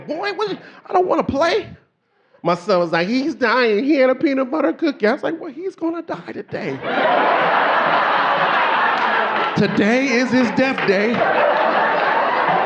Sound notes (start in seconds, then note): 6.6 audience laughing